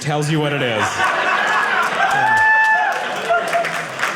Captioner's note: audience cheering